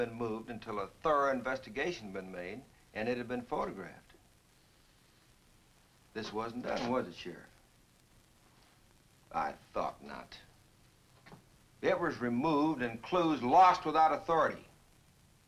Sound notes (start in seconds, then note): none